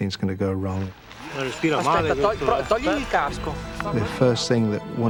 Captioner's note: speaking foreign language